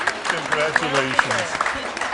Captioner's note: applause